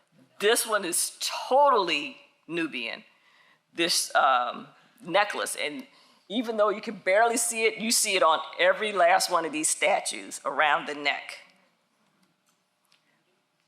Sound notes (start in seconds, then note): none